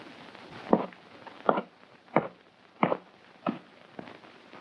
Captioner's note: hoof thumping